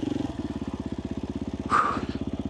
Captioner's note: exhales